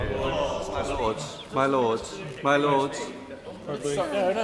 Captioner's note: members chatter